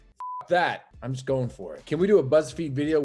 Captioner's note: beep